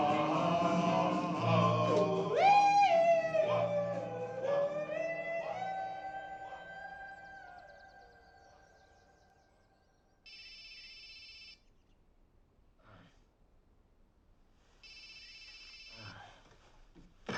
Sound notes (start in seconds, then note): 10.2 phone ringing